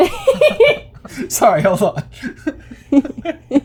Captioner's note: laughter; so much giggling